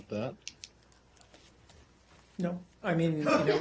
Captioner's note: laughter